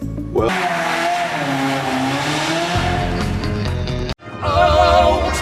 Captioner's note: car running noise. vroom vroom amirite